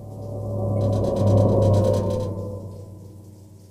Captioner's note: windows rattle